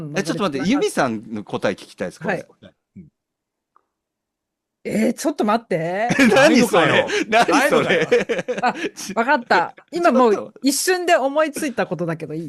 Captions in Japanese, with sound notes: え、ちょっと待って。ゆみさんの答え聞きたいです、これ。 はい。答 うん。 え、ちょっと待って。 何それ?何それ?[笑い] あ、分かった。今もう一瞬で思いついたことだけどいい?